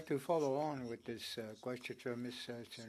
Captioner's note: speaking French